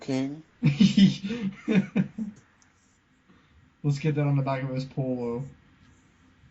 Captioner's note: laughing